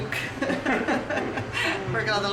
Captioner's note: chuckling